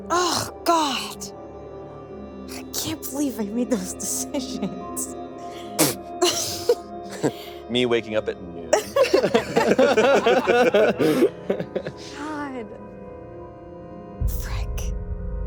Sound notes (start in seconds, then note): 7.0 laughs; 8.7 group laughing